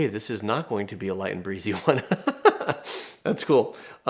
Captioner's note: laughs